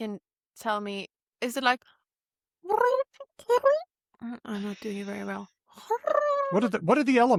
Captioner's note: makes bird warbling sounds